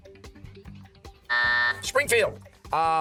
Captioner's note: timer